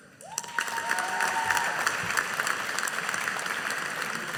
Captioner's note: audience applauding